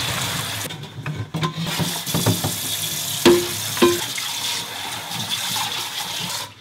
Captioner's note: pot clanking; water sloshing